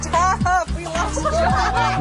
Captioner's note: laughter